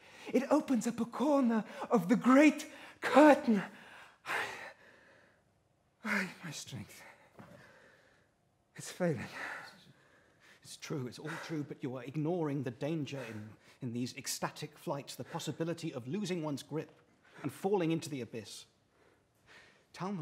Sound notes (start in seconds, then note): 4.3 sighs